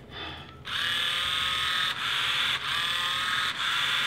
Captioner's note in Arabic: الطنين الطوقان